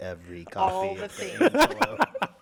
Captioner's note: laughter